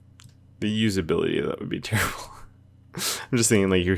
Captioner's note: laughs